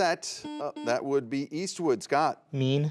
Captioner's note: buzzer buzzes